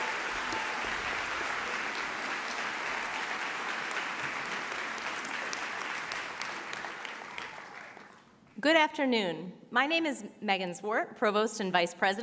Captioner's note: applause